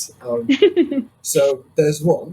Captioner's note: laughs